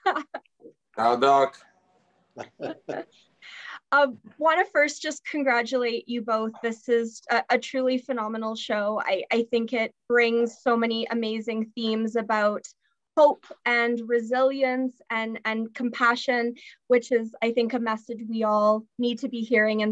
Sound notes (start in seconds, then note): 0.0 chuckles; 2.4 laughs